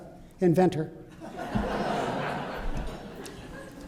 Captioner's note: laughter